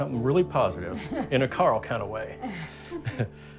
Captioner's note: laugh